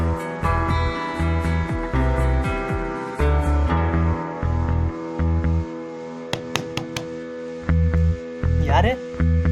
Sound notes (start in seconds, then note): 6.3 hearing knocks on the door of the other dimension